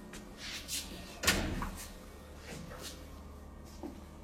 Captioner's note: heavy door slamming